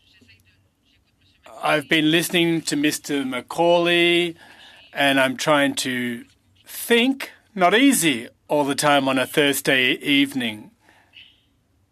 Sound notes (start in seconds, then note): 2.6 speaking french